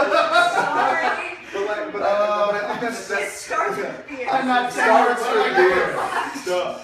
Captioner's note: laughing